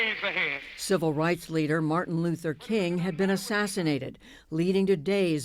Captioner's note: voice-over